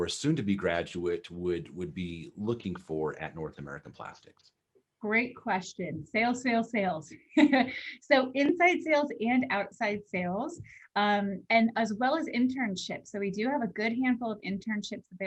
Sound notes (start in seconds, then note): 7.2 laughter